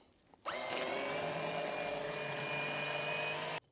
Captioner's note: pump whirs